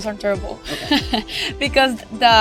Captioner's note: laughs